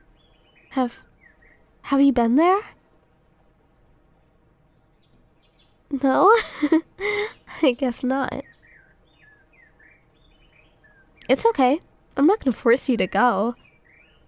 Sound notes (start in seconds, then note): 6.2 soft laugh